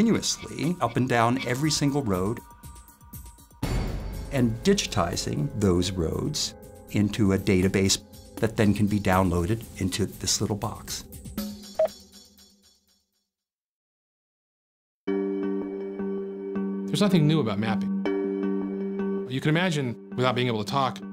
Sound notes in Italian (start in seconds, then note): 11.8 beep elettronico